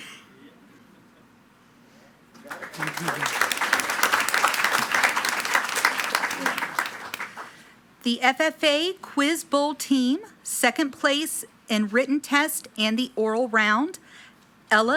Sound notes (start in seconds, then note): 2.3 attendees clapping